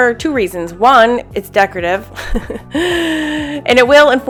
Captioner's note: laughs